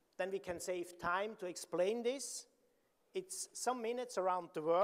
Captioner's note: none